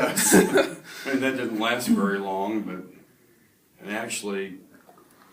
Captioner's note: both laugh